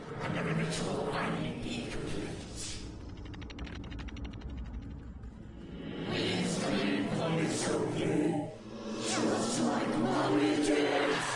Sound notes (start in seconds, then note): 2.6 monster clicking